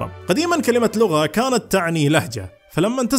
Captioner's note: in Arabic